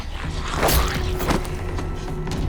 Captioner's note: body thuds